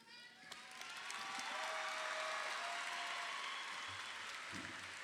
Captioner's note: audience applauding